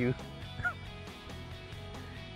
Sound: chuckles

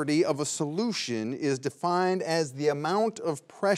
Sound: none

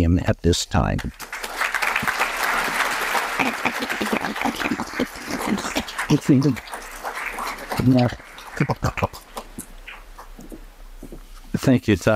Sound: applause

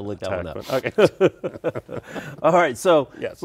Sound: both laugh

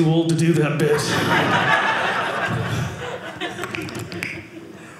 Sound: audience laughing

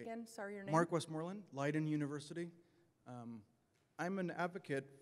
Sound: voiceover

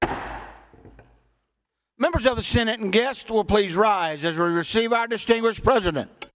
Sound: pounding of gavel

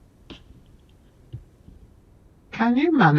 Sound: foot thudding

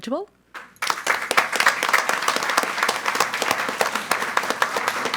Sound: audience applauds

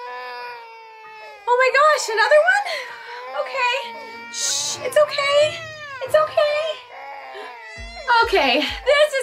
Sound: crying

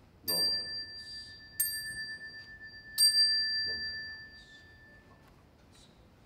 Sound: bell ringing

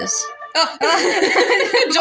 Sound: laugh

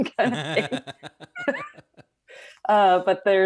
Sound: both laughing

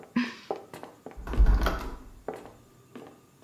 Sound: footsteps; door opening

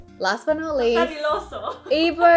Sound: laughs

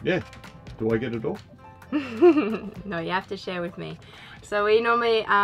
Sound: laughs

